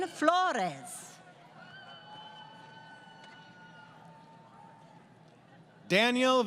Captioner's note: crowd Cheering